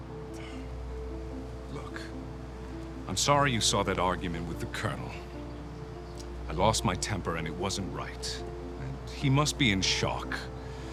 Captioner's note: sighs